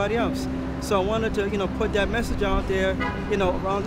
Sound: car honking

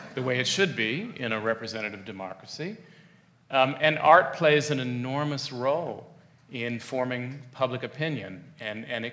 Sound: laughs

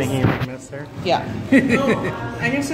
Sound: laughter

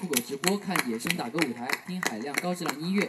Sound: clapping machine without feelings

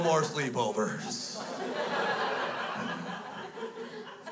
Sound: crowd laughs

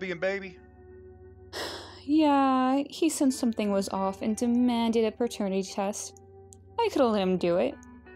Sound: sigh

